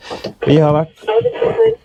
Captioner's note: radio message